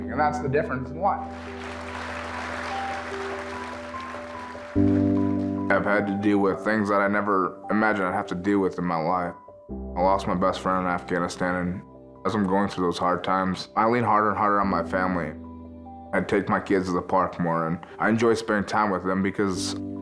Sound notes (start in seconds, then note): 1.2 audience applauding